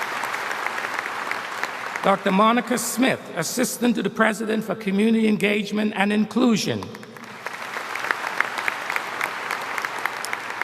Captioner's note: applause